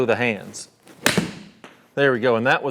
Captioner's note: club thwacking golf ball